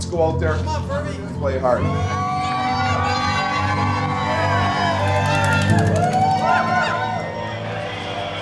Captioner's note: cheering